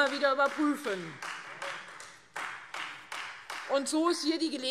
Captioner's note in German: Beifall Freie Demokraten